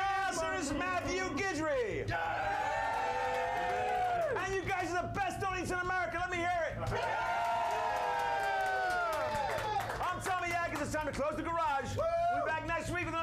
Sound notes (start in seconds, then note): 2.1 audience cheering; 6.8 audience cheering